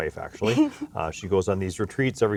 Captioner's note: laughs